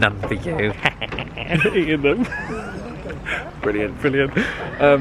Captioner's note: cackles